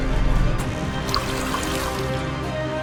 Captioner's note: splashing